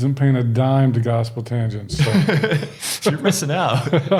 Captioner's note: chuckling